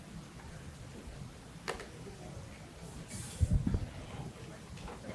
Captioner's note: audience chatter